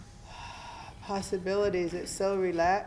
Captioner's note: breathing deeply